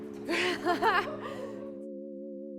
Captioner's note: giggles